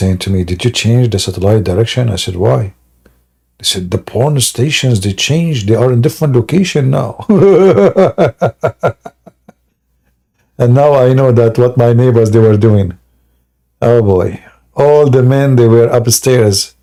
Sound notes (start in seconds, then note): 7.2 Ketawa